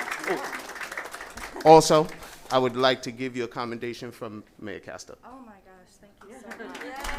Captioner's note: applause